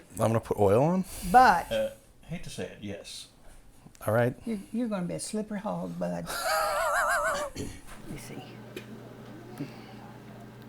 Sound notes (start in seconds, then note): 6.3 Billy laughs